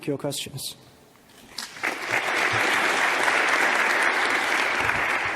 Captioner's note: audience claps